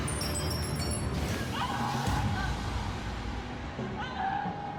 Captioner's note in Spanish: gritos